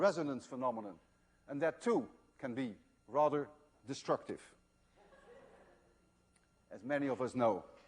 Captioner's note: laughter